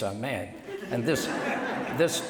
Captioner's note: laughter